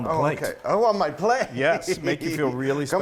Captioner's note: giggles